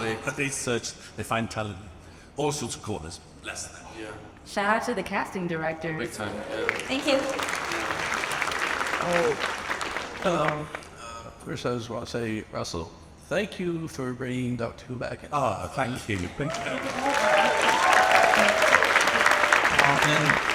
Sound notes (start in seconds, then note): 9.0 audience applauds; 16.1 audience applauds and cheers